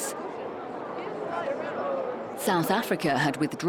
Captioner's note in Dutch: mensen kletsen